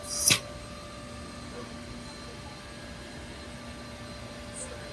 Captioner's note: tool-change Sounds